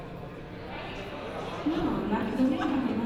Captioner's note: audience talking